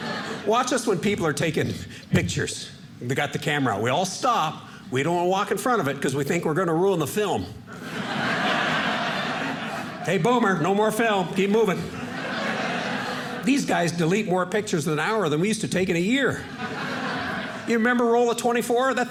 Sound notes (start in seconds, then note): 7.7 audience laughing